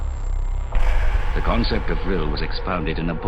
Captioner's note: voiceover